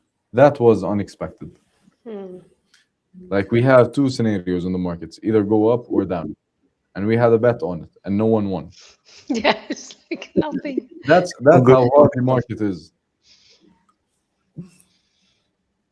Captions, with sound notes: That was unexpected. Like we have two scenarios in the markets either go up or down and we had a bet on it and no one won. Yes. [laughter] That's that's how the market is.